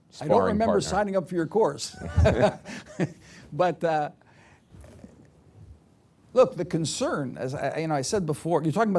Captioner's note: laughs